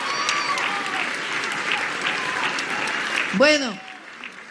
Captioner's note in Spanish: aplausos